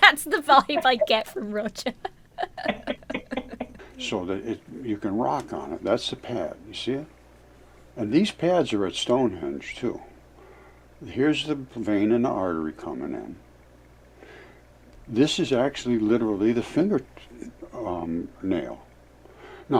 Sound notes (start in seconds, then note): 3.0 laughs